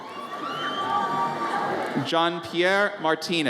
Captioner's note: audience cheers